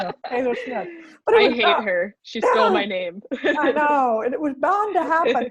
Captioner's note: laughs